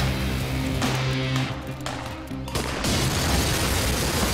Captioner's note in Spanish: Estruendo